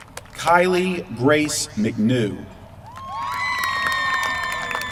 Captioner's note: applause